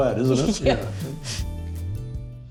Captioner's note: everyone laughs